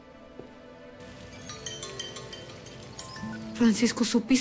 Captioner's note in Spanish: Suena el teléfono